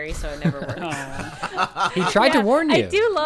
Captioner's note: group laughing